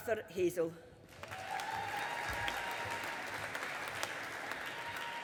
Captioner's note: audience applauding